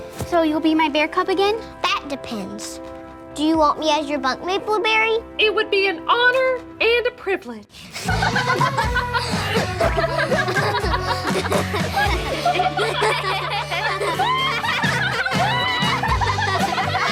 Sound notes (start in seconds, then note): 8.8 girls laughing; 12.6 girls laughing